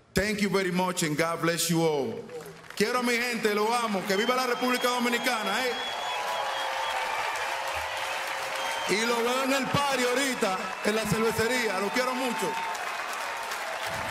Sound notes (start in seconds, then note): 6.4 speaking spanish; 8.3 applause